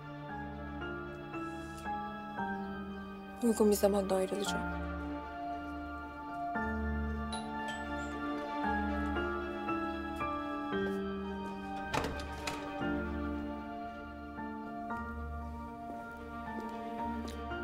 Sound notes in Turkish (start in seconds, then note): 7.3 Zil Çalıyor